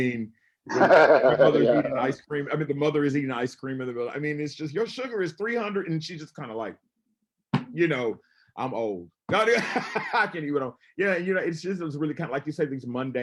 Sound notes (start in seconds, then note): 0.7 laughing; 10.5 laughs